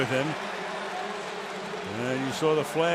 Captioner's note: pa announcement